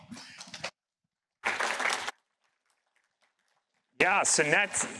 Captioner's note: applause